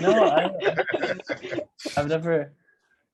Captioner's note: laughs